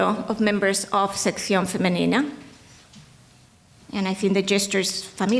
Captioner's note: speaking in foreign language